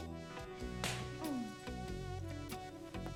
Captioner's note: smack